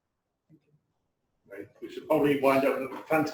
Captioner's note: pause